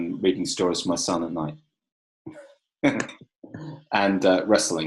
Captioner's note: laughing